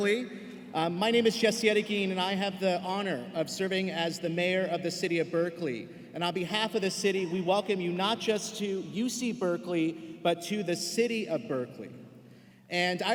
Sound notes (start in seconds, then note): none